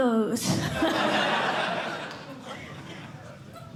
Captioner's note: laughter